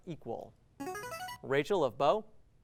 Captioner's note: ringing